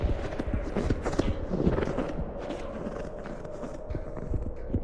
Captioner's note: footsteps